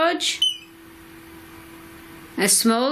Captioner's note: beep